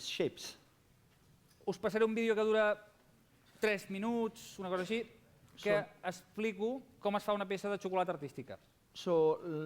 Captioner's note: non-english speech